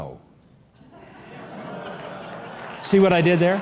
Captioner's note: audience laughing